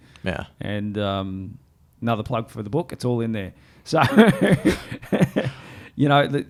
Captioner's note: laughs